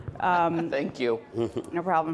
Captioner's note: laughs